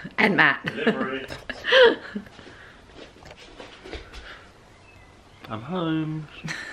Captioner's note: laughs; chuckles